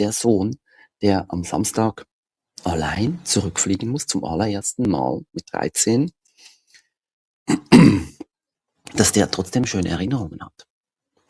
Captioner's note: ahem